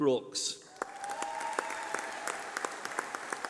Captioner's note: applause